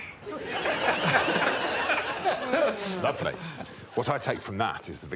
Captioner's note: all laughing